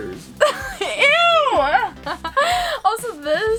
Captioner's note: laughs